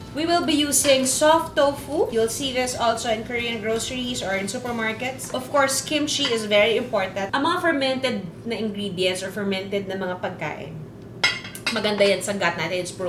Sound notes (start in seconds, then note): none